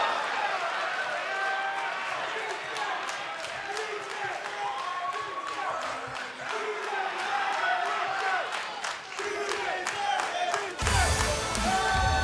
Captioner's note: crowd cheering